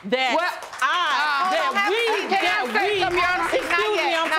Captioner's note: audience applauding